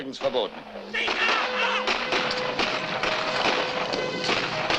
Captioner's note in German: Trompetensignal, Schüsse